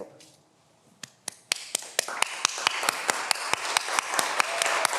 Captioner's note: everyone applauds